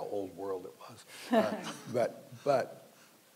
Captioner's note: panelists laughing